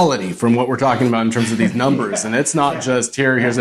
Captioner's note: laughing